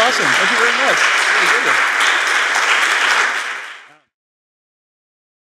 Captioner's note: applause